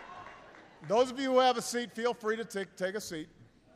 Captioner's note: applause